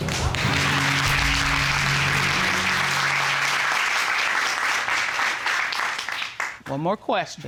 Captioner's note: audience clapping